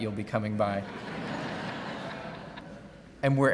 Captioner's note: laughing